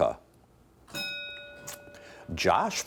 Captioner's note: bell dinging